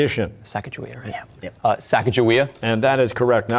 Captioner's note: whispering